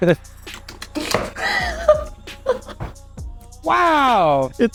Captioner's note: lip Smacks